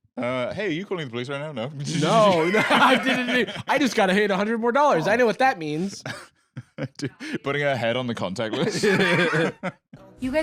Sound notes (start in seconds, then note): 1.9 laughs